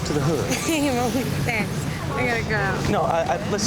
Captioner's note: chuckles